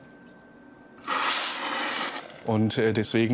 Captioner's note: slurp